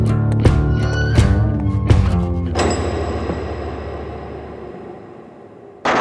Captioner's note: cell door clamoring